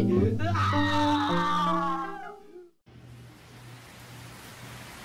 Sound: screaming

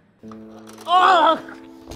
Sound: screams

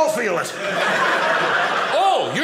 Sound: audience laughing

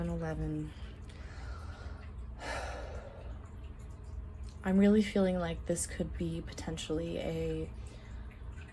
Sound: deep breath

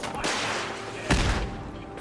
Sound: boom!

